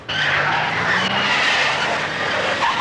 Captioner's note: tires screech